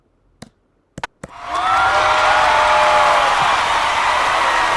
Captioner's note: crowd going crazy